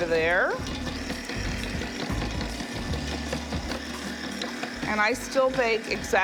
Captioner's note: mixer whirring